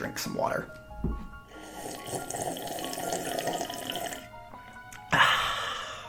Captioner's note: slurping H20